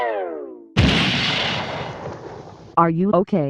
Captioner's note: thud!